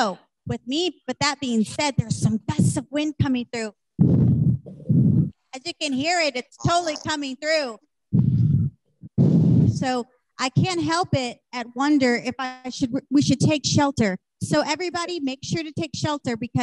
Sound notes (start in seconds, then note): 4.2 imitates wind whooshing; 8.2 imitates wind whooshing